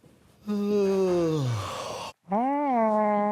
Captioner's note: yawns; rhys moans